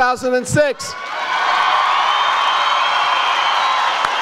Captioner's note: audience cheers